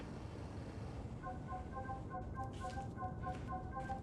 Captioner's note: phone ringing